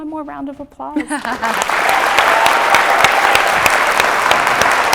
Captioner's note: audience applauding